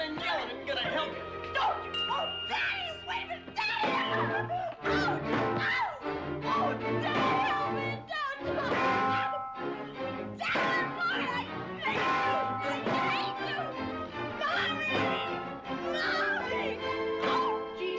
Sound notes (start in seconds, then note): 5.5 yelling